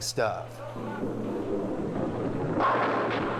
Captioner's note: ball rumbling; pins thumping